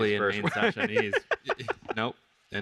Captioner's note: laughs